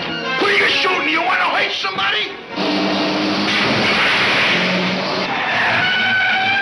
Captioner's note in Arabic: صرير الإطارات